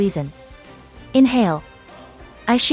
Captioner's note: inhale